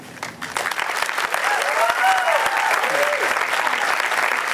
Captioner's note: applause